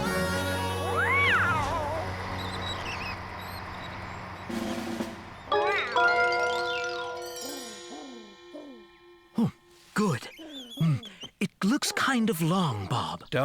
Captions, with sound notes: MEOOOW! MEOW! ( Doves Cooing ) HMM, GOOD. MM, IT LOOKS KIND OF LONG, BOB.